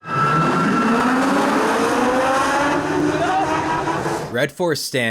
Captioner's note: coaster revving up, faint screams